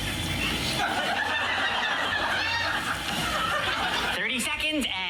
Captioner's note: audience laughing